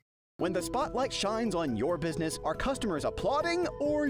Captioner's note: voiceover